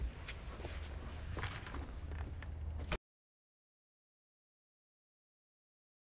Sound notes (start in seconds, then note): 1.2 key rattles